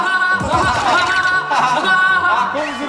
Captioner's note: hahahaha